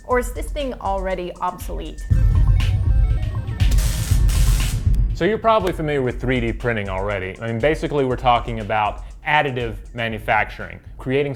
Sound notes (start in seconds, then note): 3.7 air hisses